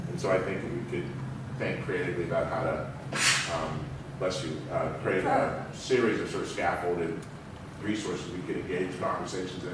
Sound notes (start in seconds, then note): 3.1 sneeze